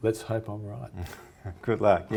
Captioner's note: chuckles